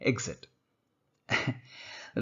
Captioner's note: chuckles